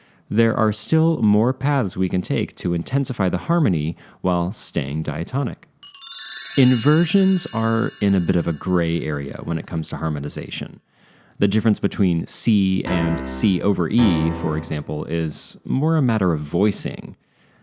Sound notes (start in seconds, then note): 5.8 chime; 12.8 chord